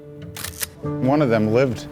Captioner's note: camera snapping